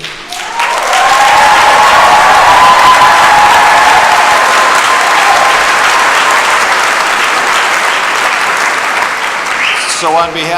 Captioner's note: cheers and applause